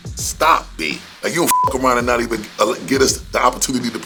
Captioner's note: beep